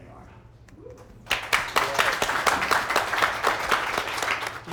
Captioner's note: applause